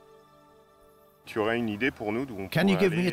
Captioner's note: speaking French